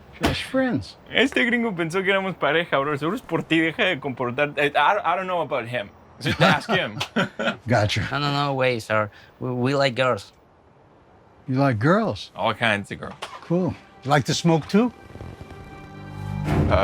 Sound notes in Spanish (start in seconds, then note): 6.2 Risas